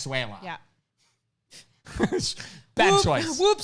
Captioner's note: chuckles